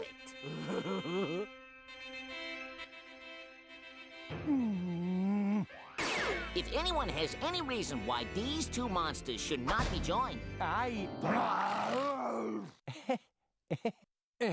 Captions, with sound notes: [laughing] [grunting] IF ANYONE HAS ANY REASON WHY THESE TWO MONSTERS SHOULD NOT BE JOINED... [both growling] [laughing nervously]